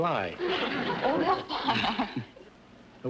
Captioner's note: laughs